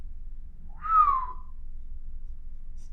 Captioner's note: whistles